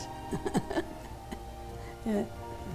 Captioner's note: laughter